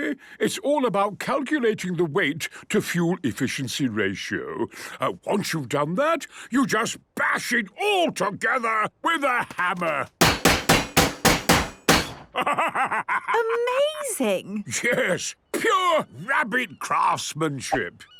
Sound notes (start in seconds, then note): 10.2 metallic bashing